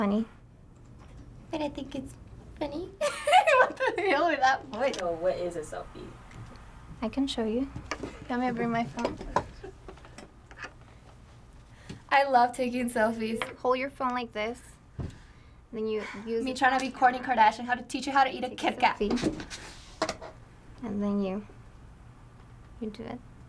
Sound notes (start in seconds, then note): 3.0 laughing; 10.1 FBE laughing